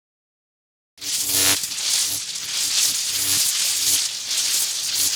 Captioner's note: electricity sizzles